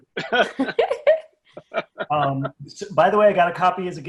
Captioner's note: laughs